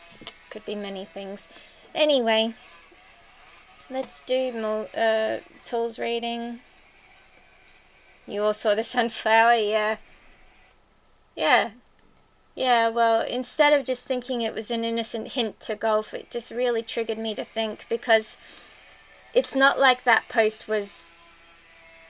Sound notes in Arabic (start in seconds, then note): 15.5 المنشار توقف 555